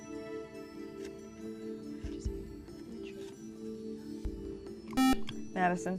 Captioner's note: whispering